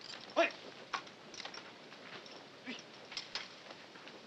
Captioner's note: speaking Japanese